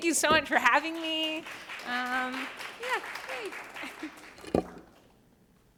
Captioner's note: applause